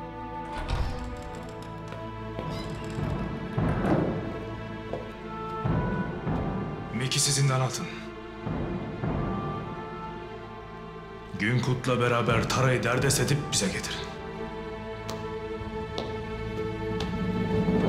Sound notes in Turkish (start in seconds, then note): 0.3 Kapı açılma sesi; 3.2 Kapı kapanma sesi; 17.2 Müzik - Hareketli